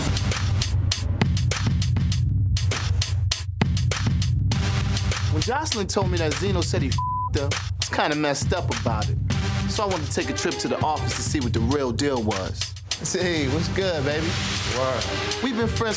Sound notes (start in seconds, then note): 0.1 upbeat hip hop music; 6.9 beep